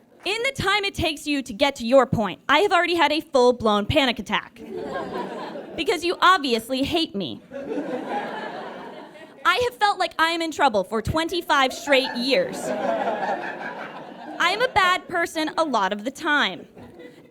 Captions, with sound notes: In the time it takes you to get to your point, I have already had a full-blown panic attack. Because you obviously hate me. I have felt like I am in trouble for 25 straight years. (audience guffaws) I am a bad person a lot of the time.